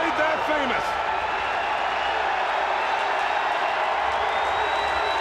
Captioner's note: audience cheers